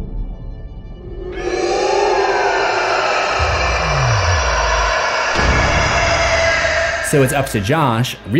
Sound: ghostly scream

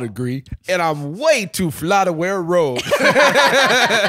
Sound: all laughing

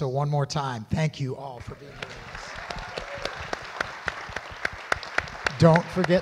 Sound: audience applauds

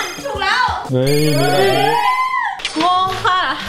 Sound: cheering

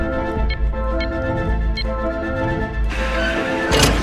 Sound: keypad beeping

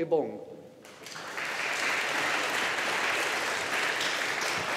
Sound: audience applauding

